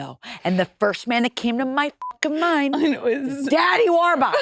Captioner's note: beep